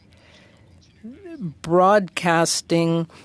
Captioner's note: speaking French